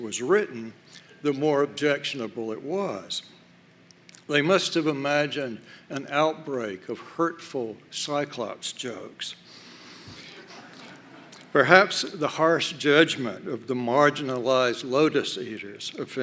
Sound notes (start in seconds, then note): 10.3 laughter